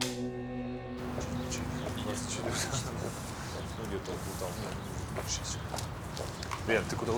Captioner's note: chattering